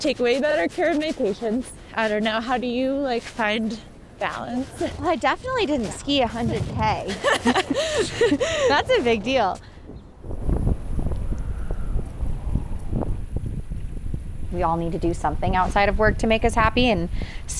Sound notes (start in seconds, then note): 7.0 both laughing; 10.8 wind howling